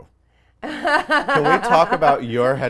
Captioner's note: laughing